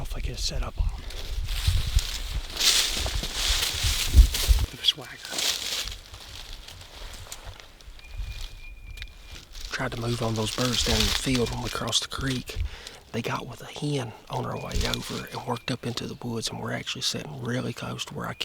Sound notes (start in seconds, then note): 3.4 leaves rustling; 7.9 birds whistling